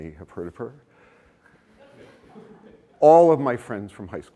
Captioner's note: laughter